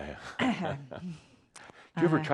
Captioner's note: chuckles